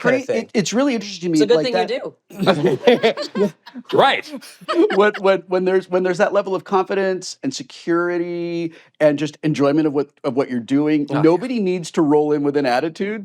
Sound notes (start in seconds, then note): 2.3 laughter